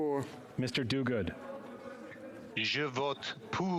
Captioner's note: speaking French